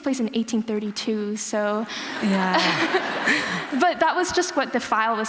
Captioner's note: laughter